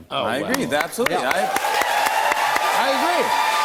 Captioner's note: cheers and applause